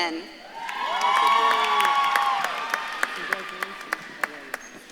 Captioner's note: audience claps and cheers